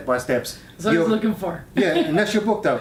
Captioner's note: laughs